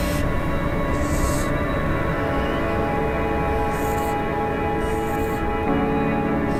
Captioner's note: marker quietly squeaking